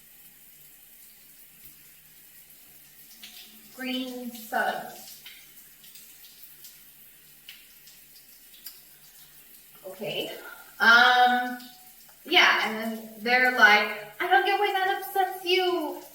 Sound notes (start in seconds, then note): 8.5 sucks teeth